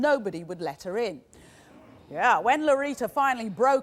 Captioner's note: audience grumbling